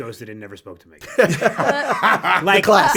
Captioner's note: all laugh